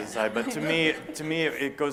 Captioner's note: laughter